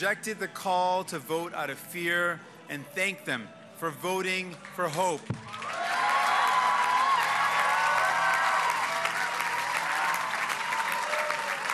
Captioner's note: cheers and applause